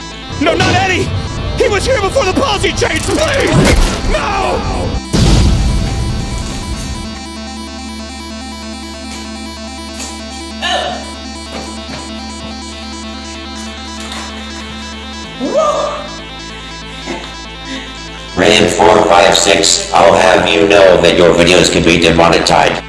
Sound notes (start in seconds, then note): 5.1 explosion